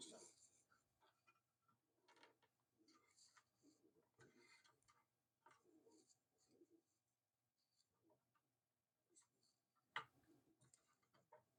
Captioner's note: silence